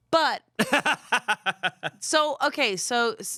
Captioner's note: laughs